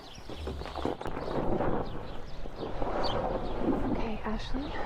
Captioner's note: bag dragging